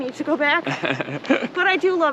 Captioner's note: laughs